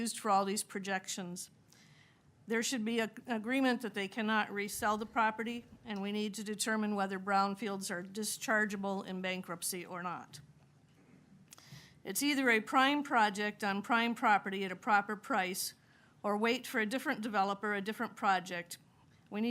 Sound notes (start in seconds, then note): none